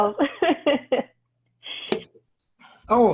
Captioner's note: laughter